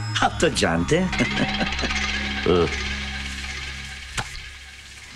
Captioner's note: Laughs